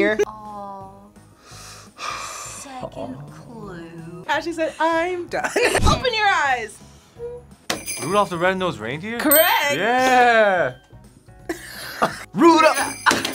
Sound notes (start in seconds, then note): 5.4 laughs; 7.7 bells jingling; 11.5 both laugh